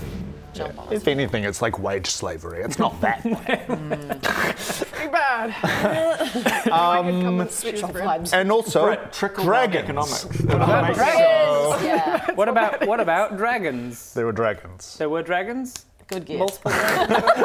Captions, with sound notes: jump on us. If anything, it's like wage slavery. It's not that bad. *low socioeconomic peasant laughter* *snort* Pretty bad. - Maybe I could come and shoo him - Sweat shop vibes - And also, dragons. - Britt, trickle down economics. Dragons! Yeah. What about dragons? There were dragons. There were dragons? - Good guess - Multiple dragons.